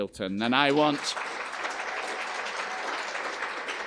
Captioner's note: applause